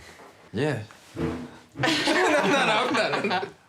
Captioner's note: all laugh